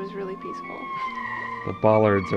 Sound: metal screeches

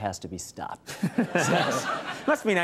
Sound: presenter laughs; crowd laughs

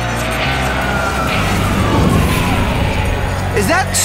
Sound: sirens

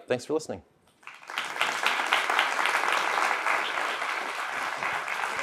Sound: applause

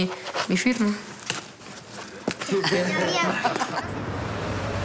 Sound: laughter

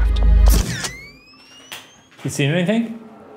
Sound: camera shutter clicks

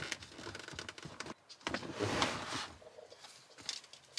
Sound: creaking

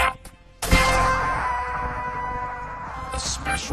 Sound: vitruvius yelling

